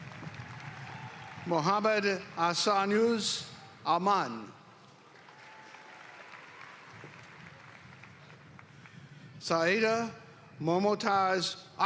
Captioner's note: applause